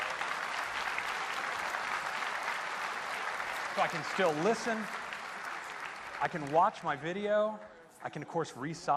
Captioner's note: applause